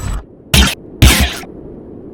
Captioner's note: intro sound; glitching